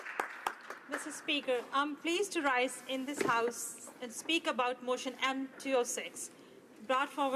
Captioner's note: applause